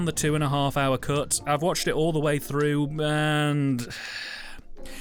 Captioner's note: sigh